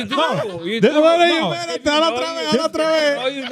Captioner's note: all Laughing